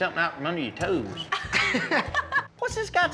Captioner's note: laughs